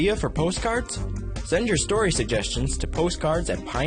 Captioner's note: voiceover